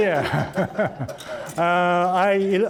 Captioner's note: all laughing